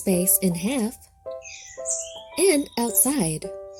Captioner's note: birds chirping